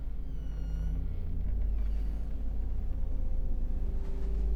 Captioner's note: door squeaks